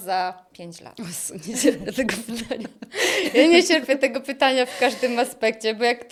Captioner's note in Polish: śmiech